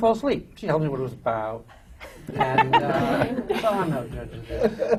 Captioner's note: laughter